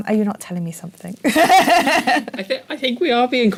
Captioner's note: laugh